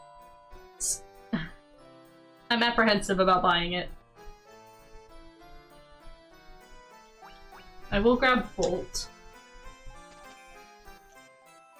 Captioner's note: exasperated huff